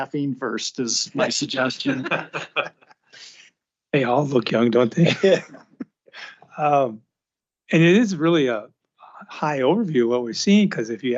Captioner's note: laughter